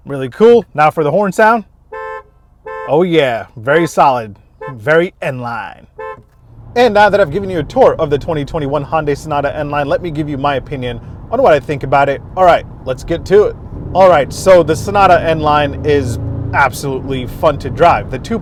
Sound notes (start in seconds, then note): 1.8 horn honking